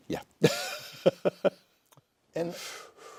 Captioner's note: laughter